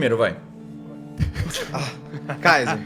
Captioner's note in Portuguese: Risos